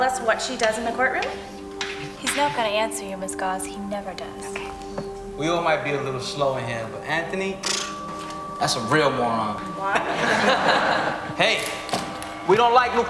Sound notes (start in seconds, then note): 6.3 students laughing